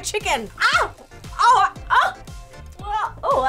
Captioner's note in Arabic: تصرخ; تتأوه